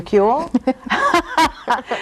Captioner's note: guest laugh